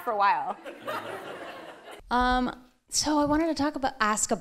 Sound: laughing

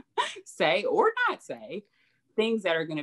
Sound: laughs

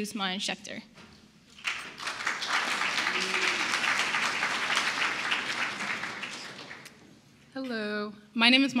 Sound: applause

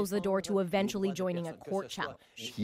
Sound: speaking French

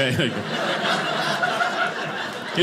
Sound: audience laughing

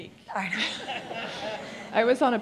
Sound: laughing

